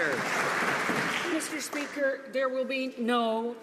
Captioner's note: some Applause